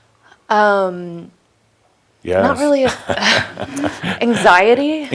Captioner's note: they chuckle